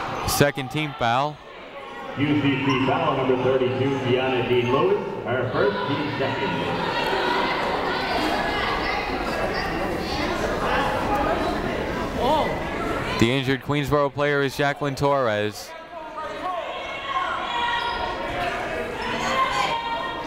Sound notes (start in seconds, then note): 9.0 people talking in the crowd; 15.8 people shouting in the crowd